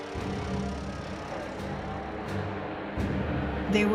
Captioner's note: airplanes flying overhead